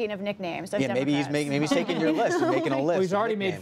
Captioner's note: laughter